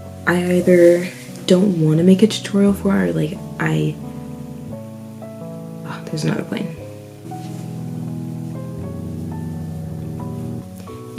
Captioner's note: extremely loud plane noises